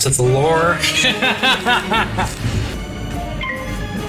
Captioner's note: Gracie laughs